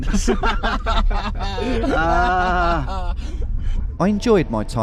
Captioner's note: two Yorkshiremen laughing